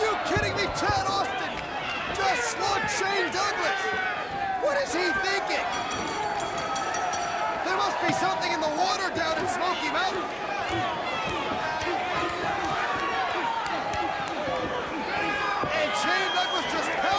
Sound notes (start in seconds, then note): 5.5 bell ringing; 12.0 crowd chatter